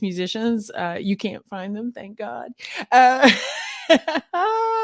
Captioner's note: laughs